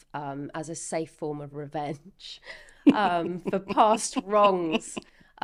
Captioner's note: laughing